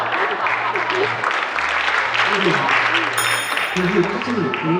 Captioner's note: some people are even clapping